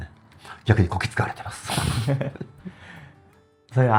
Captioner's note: laughs